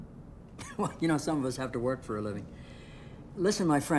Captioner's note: chuckling